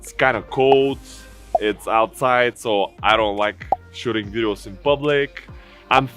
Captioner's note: popping sounds